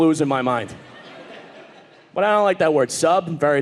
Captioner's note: audience laughing